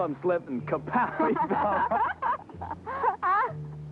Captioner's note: laughing